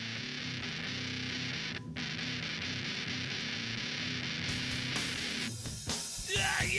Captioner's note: metal music; singer screaming